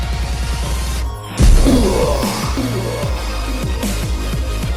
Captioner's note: field shatters